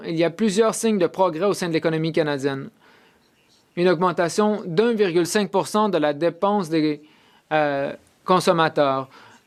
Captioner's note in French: voix de l'interprète